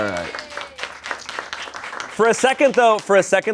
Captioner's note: crew applauds